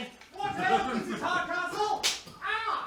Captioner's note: slap